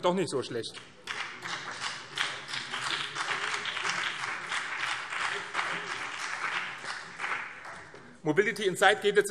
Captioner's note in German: Beifall BÜNDNIS 90/DIE GRÜNEN